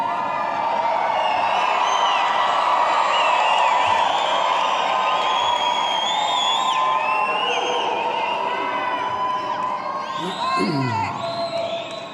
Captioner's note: cheering